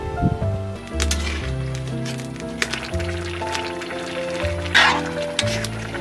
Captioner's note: steam escaping